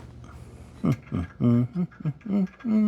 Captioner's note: humming